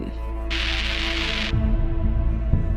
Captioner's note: TV static